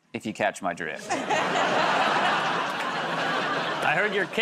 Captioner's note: laughter